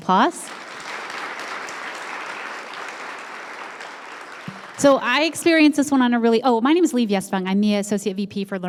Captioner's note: applause